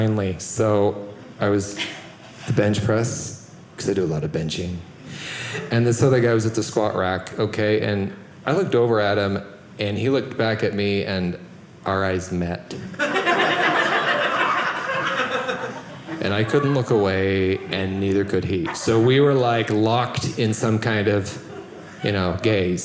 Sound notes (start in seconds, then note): 13.0 audience laughing